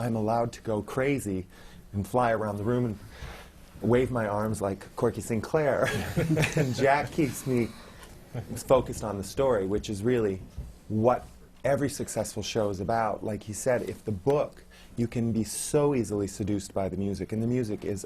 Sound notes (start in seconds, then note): 5.9 laughs